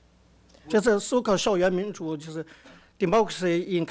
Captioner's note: speaks Mandarin